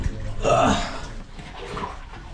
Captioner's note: grunting